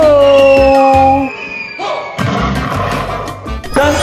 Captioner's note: cartoon falling sound